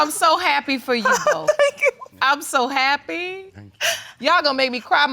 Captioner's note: tearfully